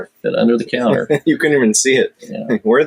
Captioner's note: laughs